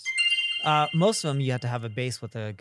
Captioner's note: bell chimes